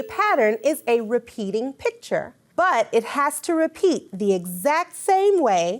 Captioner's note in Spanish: campanillas de texto